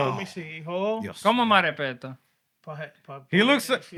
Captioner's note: non-english Speech